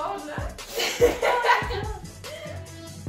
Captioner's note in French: Rire